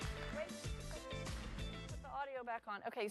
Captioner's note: applause